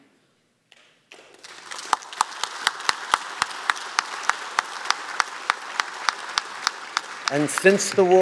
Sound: applause

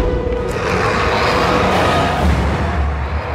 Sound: roars; all roar

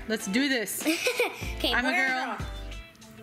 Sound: laughs

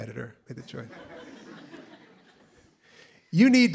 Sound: laughter

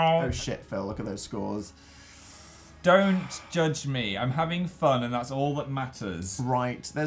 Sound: sighs

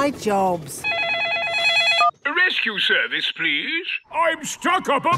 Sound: phone ringing

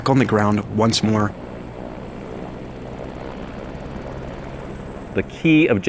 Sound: helicopter whirring

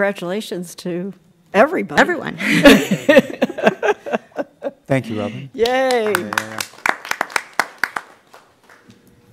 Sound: applause

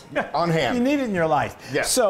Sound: laugh

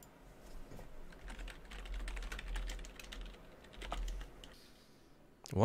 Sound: typing

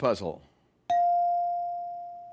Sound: ding

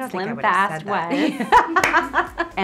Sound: laughs

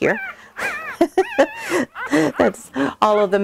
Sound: laughs

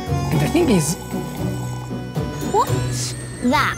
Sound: slurps

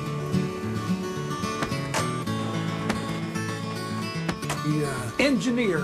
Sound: mailbag catcher sound

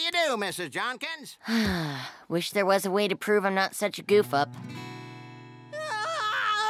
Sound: sighs; screaming

